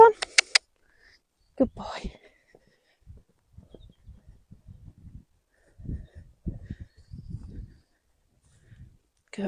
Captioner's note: click